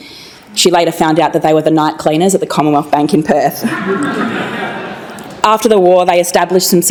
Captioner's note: laughter